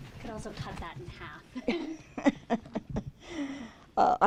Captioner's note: chuckling